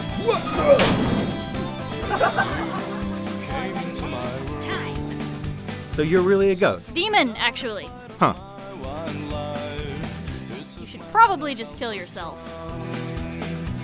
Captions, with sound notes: Wha—! Oh! [teens laugh] For the last time...! So you're really a ghost? Demon, actually. Huh. You should probably just kill yourself.